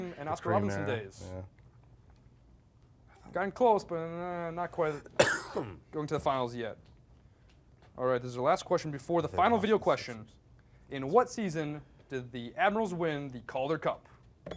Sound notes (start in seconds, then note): 5.0 coughs; 13.6 beep